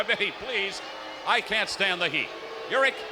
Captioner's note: audience jeers